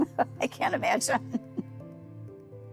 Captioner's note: chuckling